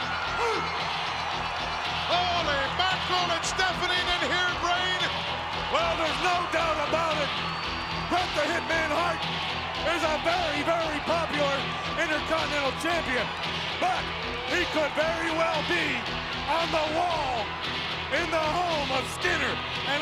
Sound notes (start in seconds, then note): 1.0 crowd cheering; 1.0 upbeat rock music